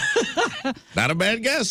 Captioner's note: laughing